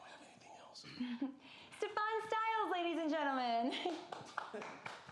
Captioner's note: chuckling